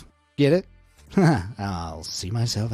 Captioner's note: chuckles